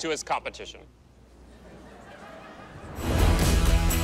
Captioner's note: audience laughter